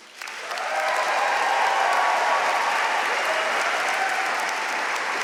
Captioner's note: audience cheering and applauding